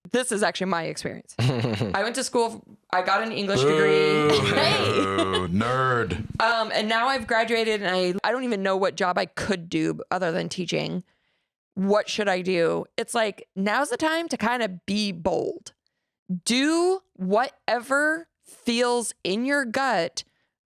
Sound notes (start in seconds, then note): 3.5 laughs; 3.6 booing